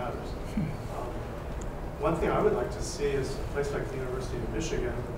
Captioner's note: laugh